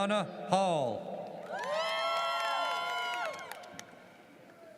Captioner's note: audience cheers